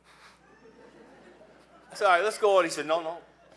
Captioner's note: laughing